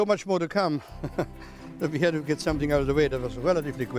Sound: laughs

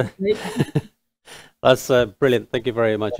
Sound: laughs

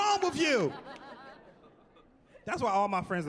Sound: laughing

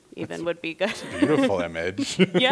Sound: laughs

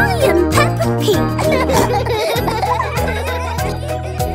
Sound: laughter; singing

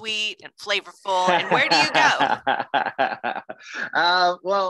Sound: laughs

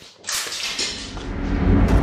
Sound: clattering; tense music

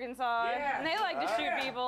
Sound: scattered applause

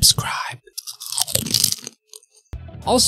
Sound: crunch

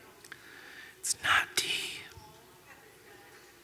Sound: in a whisper

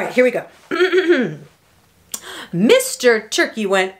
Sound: clears throat

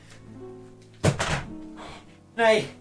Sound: controller clatters; speaking Swedish

